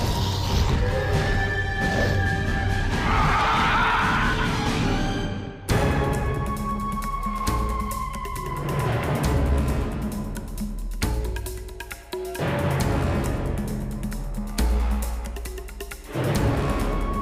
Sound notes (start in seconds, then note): 0.2 ominous music; 3.0 Eurylochus screeching; 6.2 ominous music